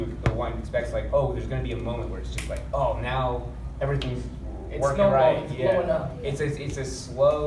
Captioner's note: snap